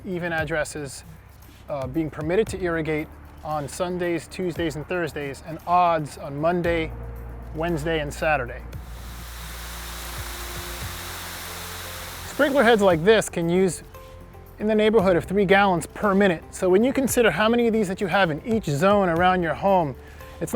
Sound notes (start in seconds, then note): 8.8 sprinkler head hisses